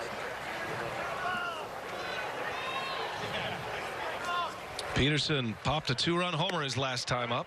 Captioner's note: crowd noise